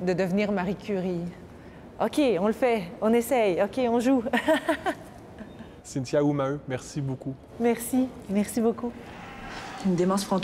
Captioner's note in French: rires